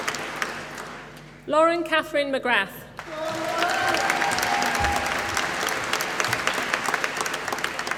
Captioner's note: applause